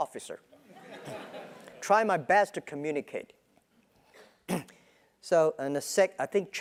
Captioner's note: laugh